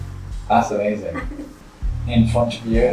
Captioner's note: giggles